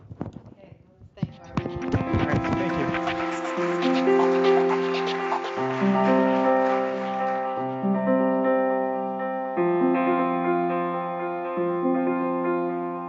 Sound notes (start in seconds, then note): 3.3 audience applauding; 3.3 piano music